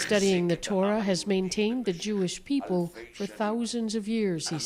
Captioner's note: speaking alternate language